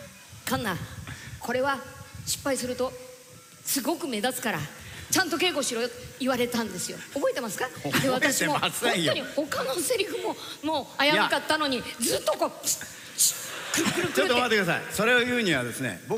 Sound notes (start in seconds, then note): 7.8 chuckles; 13.3 parasol sound effects